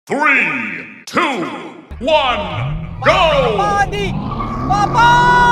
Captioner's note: deep voice